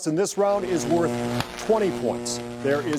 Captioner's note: electricity zapping